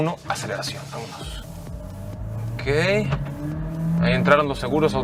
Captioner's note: engine roaring